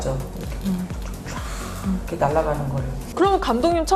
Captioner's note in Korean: 촤악~